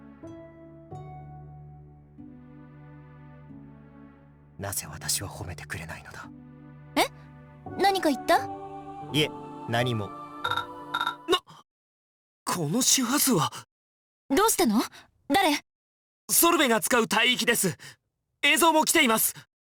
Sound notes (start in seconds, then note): 0.5 silence